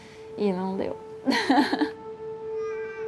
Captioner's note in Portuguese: chora